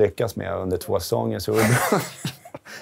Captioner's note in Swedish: skratt